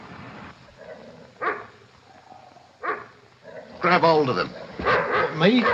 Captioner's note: towser barks